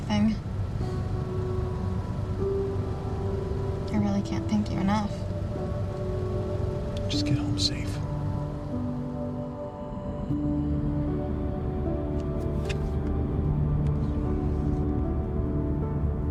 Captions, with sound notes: I really can't thank you enough. - Just get home safe. (hopeful music continues) (sun visor clicks)